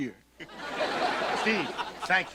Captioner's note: audience laughter